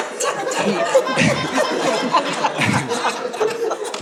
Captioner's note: audience laughing